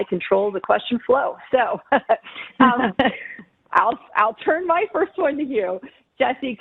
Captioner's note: laughing